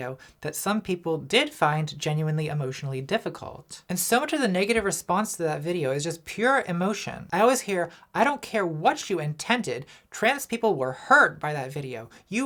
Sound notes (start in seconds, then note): none